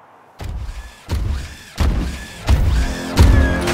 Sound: mechanical footsteps approach

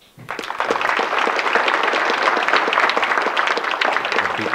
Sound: audience clapping

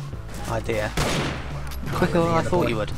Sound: gunshot

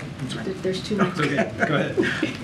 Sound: laughs

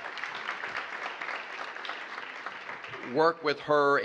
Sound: applause

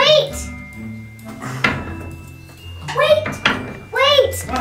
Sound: door clattering

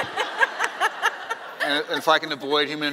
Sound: laughing

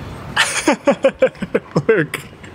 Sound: laughs

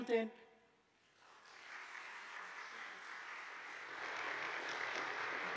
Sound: audience applauding

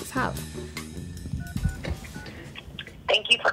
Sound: dialing tones

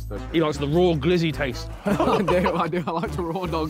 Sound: all laughing

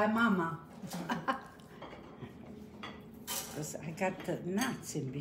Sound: laughs

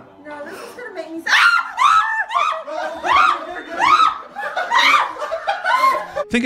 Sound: endlessly screaming

